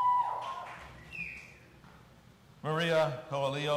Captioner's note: audience cheering